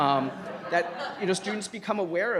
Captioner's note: crowd laughs